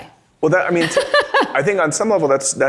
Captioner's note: laughs